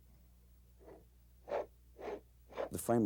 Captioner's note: scooting sound